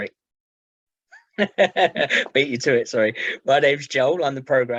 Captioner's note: laughing